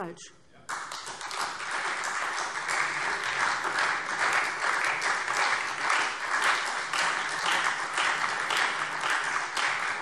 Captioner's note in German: Beifall SPD und Freie Demokraten